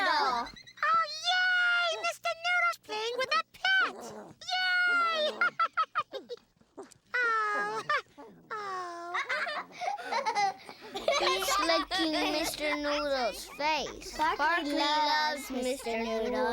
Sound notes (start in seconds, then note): 7.8 laughing